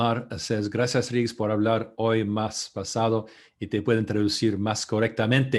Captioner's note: speaking in foreign language